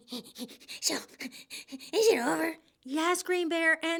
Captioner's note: jagged breathing